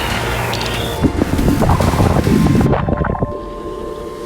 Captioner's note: rocks tumbling; water gurgling; engines running